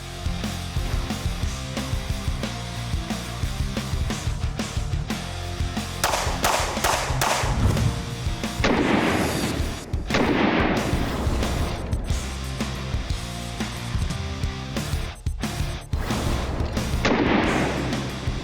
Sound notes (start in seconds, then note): 0.2 upbeat rock music; 6.0 gun blasting